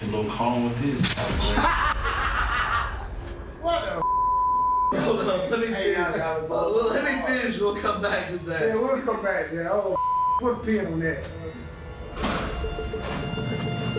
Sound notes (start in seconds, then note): 3.1 laughs; 10.3 beep